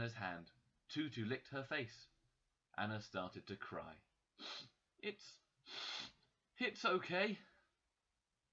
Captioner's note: sniff; sniff, sniff